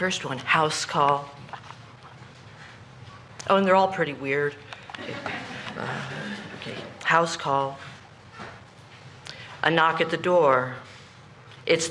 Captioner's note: laughter